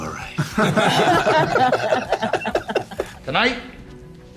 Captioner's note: laughter